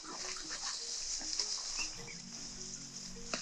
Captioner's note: leaves rustling